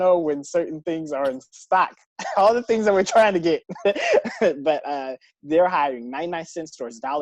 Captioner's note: laugh